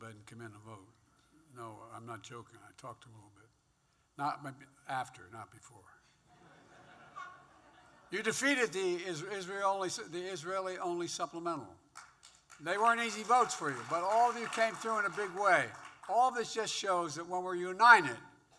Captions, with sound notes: and come in and vote. No, I'm not joking. I talked to him a little bit. Not -- after, not before. (Laughter.) You defeated the Is- -- Israel-only -- the Israeli-only supplemental. (Applause.) They weren't easy votes for you, but all of you all came through in a big way. All of this just shows that when we're united,